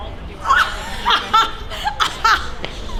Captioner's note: screams